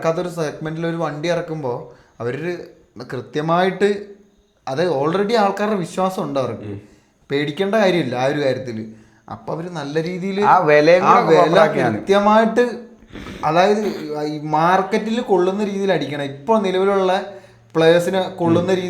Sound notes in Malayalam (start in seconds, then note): 12.9 ചീറ്റുന്നു